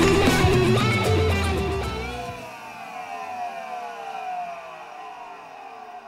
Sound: vacuum shutting off

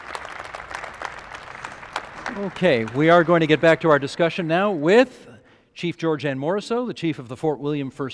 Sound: applause

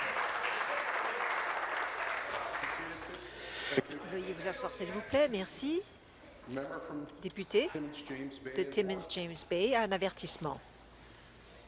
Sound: applause

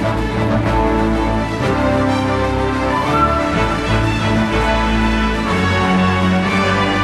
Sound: triumphant orchestra music; applause

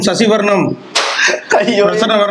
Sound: laughs

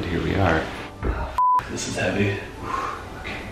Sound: beeps

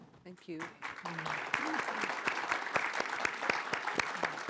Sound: applause

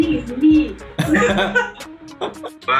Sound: laughs

